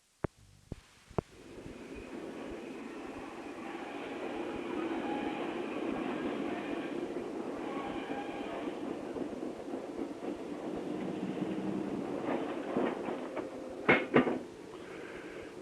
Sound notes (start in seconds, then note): 1.3 sound of train moving